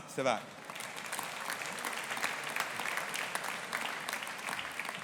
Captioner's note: audience applauding